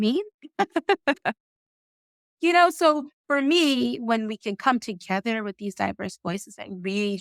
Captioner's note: laughing